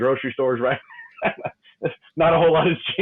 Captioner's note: laughing